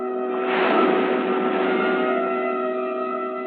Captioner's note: waves crashing